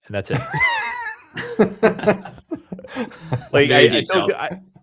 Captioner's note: laughter